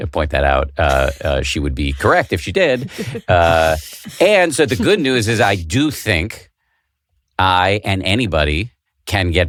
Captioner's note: laughing